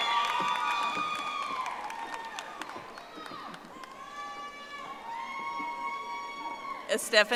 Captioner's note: audience applauding